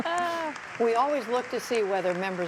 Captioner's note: laughter